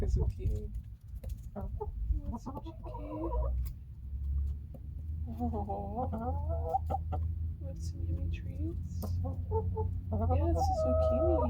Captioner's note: happy chicken noises